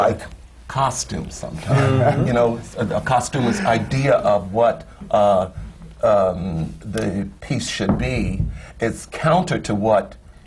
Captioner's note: laughter